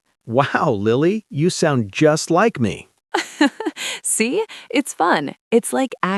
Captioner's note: laughs